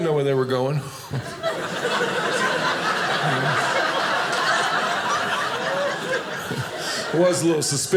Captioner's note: audience laughing